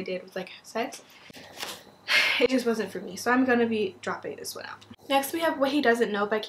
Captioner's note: sigh